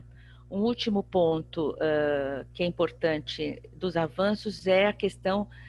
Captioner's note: speaking portuguese